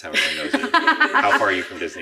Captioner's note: laughing